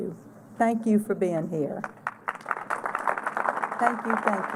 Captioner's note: applause